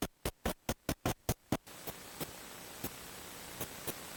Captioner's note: radio static